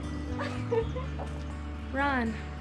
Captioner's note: laughs